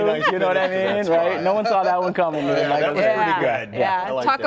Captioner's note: laughter